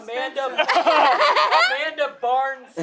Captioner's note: everyone laughing